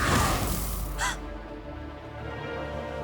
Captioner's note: gasp